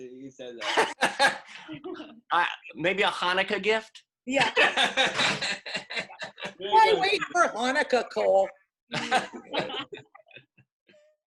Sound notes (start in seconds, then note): 0.1 laughs; 8.9 laughter